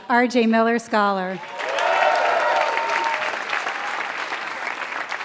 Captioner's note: applause